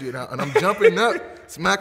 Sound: laughing

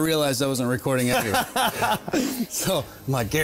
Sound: laughs

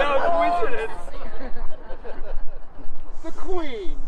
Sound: audience: laughter

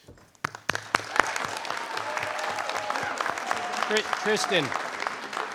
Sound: audience applauding

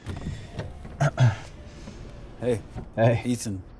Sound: window whirs down

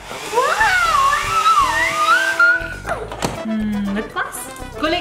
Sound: hair dryer whirring; screaming

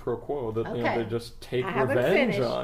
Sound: slightly condescending

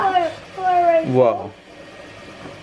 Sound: mumbles

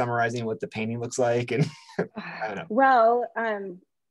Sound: chuckles

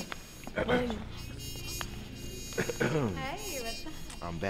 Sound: Wes clears his throat

